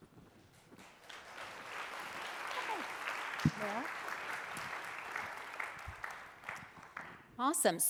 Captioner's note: applause